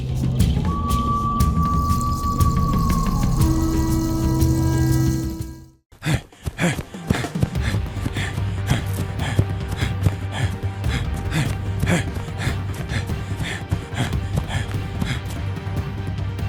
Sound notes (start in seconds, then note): 5.9 heavy breathing